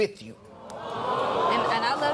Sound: audience awws

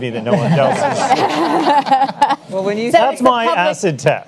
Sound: panelists laugh

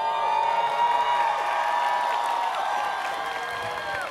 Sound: students cheering

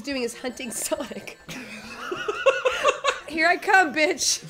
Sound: laughing

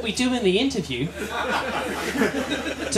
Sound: laughter

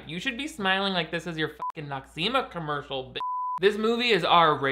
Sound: beep

